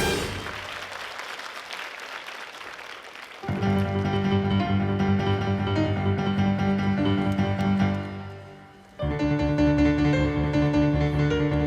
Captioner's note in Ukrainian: оплески